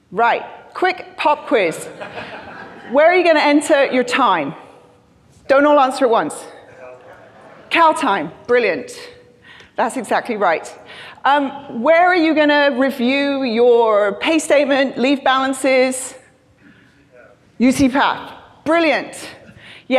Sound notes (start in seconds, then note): 1.7 crowd laughing; 6.7 crowd murmuring